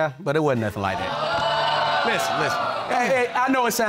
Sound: audience groaning

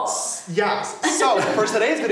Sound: laughing

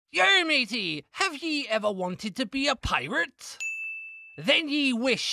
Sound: in Pirate Voice

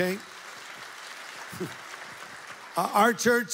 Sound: audience applauds

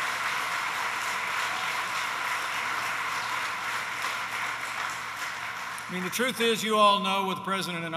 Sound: applause

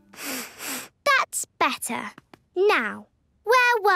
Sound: sniffs

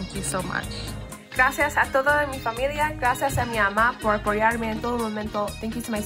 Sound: speaks in foreign language

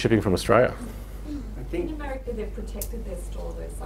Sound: woman's Voice

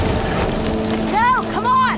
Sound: distant explosion

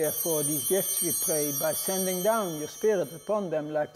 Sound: bell ringing

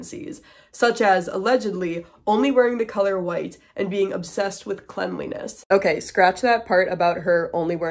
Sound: voiceover

